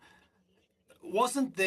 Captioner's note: speaking French